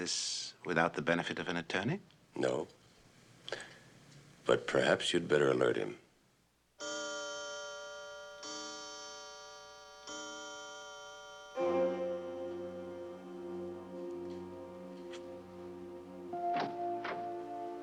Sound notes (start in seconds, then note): 6.7 chiming